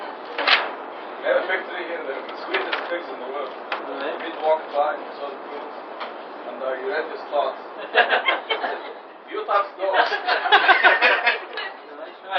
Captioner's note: gülüyorlar